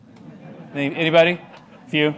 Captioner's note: laughter